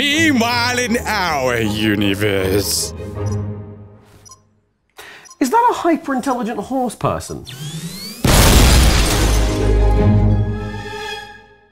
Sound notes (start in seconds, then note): 3.4 bomb ticking; 8.2 bomb exploding